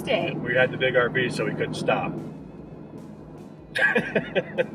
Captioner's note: laughing